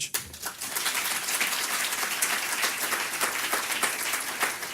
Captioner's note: audience clapping